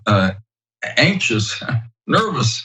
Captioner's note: laugh